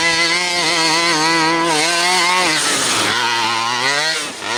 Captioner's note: truck engine revving